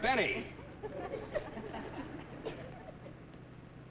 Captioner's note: group laughs